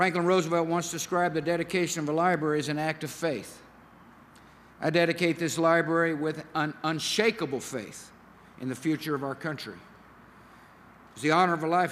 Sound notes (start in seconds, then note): none